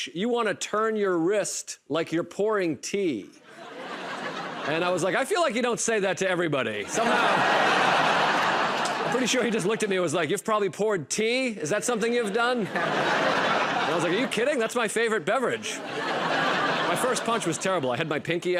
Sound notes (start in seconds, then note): 3.4 laughter; 6.8 laughter; 12.0 laughter